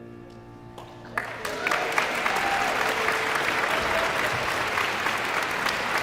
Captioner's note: guests cheering and applauding